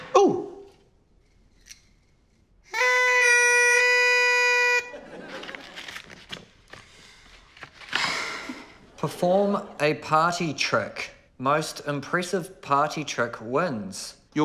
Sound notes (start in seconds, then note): 2.7 party horns honk; 7.9 sighs